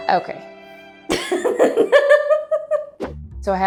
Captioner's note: laughing